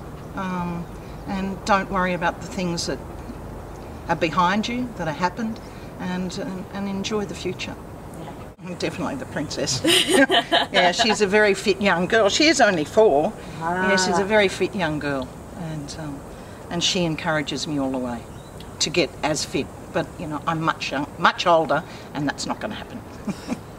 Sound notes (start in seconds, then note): 9.7 interviewer laughs